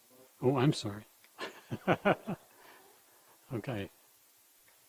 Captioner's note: laughs